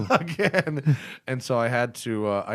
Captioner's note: laughter